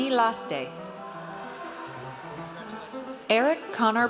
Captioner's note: audience cheers